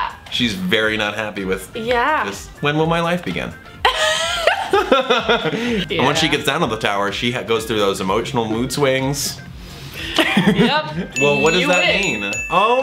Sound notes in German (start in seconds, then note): 3.8 lacht